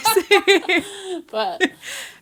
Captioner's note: laughs